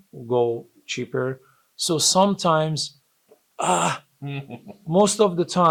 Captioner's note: laughs